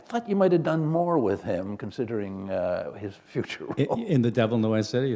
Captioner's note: chuckle